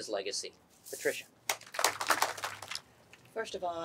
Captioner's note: clapping